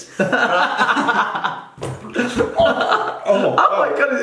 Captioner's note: laughing